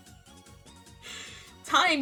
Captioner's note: inhale